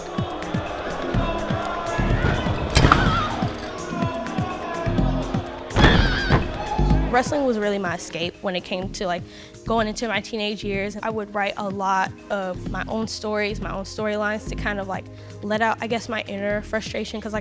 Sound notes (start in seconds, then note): 0.0 crowd boos; 5.8 yells